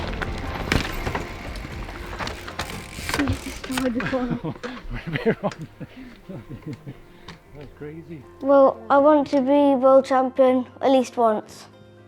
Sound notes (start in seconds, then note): 0.2 bikes skidding to a stop; 2.2 bike hubs clicks